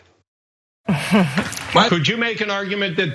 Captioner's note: laugh